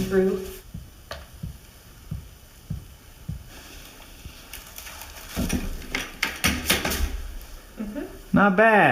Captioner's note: paint bucket glugs